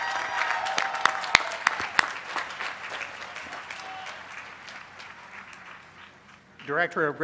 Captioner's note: cheers and applause